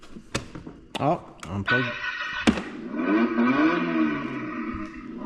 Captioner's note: engine start sound effect